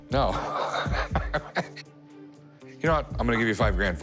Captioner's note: laughs